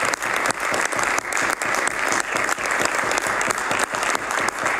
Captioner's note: some Applause